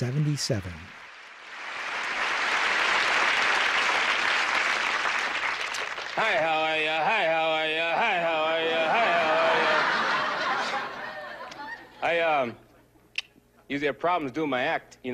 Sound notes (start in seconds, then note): 0.5 applause; 6.2 chanting; 8.6 laughter